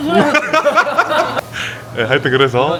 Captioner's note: laughs